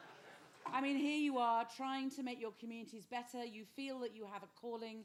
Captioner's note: laughter